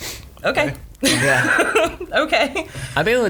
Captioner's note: laughs